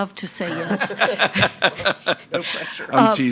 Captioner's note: members laughing